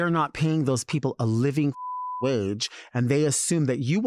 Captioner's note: beep